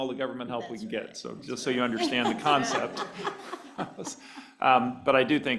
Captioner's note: laughter